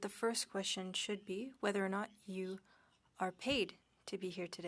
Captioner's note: speaking French